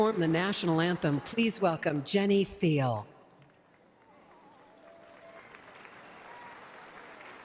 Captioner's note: cheers and applause